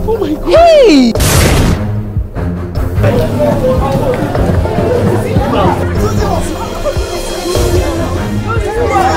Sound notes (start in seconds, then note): 2.9 crowd murmuring; 8.6 cheering